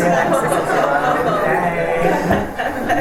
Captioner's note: laughter